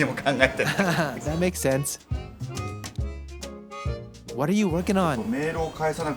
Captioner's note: laugh